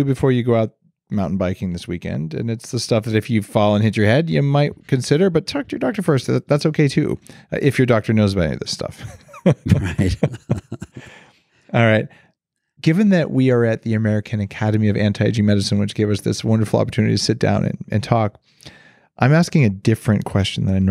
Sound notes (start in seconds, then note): 8.9 laughing; 11.1 chuckles